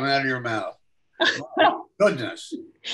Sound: laughs

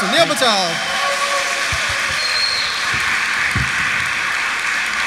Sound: audience cheers

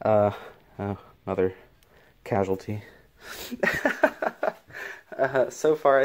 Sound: laughs

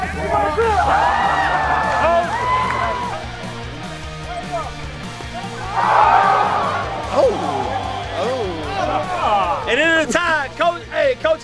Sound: crowd noise; cheering

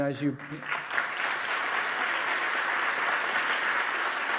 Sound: audience applauding

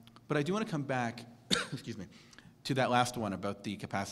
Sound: cough

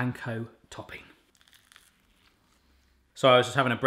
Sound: crunching

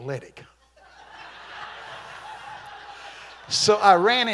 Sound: congregation laughing

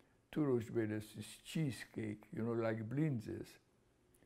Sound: non-english

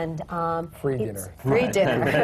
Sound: laughter

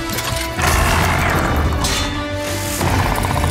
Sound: growls

